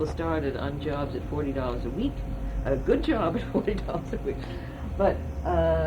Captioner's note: laughs